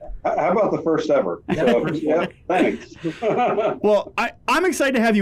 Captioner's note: laughs